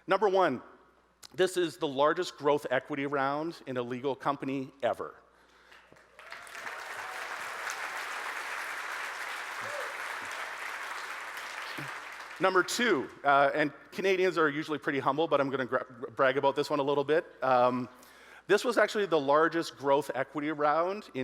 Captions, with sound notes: Number one, this is the largest growth equity round in a legal company ever. (audience cheering) (audience applauding) Number two and Canadians are usually pretty humble but I'm gonna brag about this one a little bit. This was actually the largest growth equity round